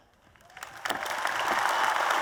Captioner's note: applause